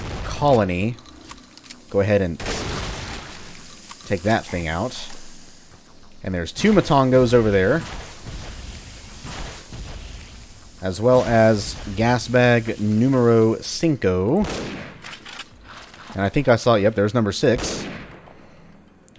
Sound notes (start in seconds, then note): 15.2 bam; 18.7 bam